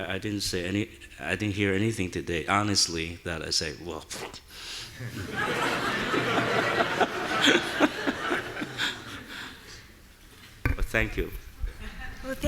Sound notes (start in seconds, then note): 4.3 sneering; 5.0 audience laughing